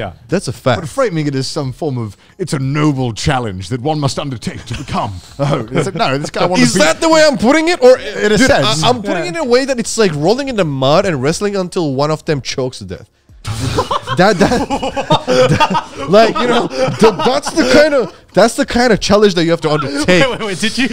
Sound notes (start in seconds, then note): 13.4 all laughing